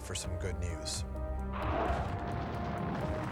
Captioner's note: explosions